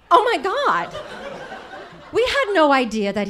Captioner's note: audience laughing